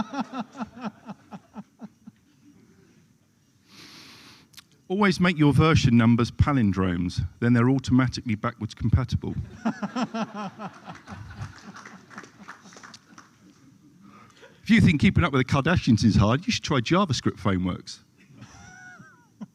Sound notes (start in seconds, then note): 1.7 laughter; 9.3 laughter